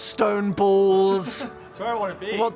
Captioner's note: Phil laughs